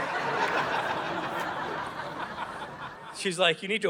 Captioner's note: audience laughing